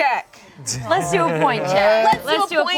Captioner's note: laughs